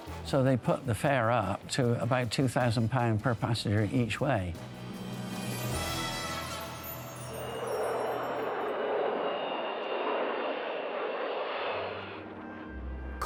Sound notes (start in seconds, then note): 7.5 jet engine roaring